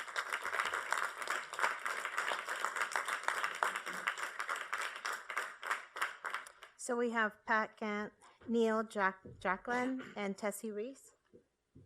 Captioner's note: applause